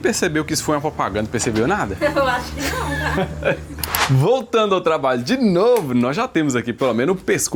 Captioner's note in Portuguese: risadas